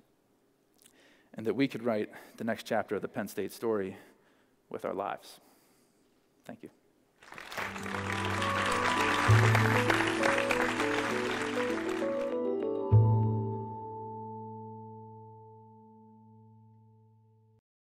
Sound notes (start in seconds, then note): 7.2 applause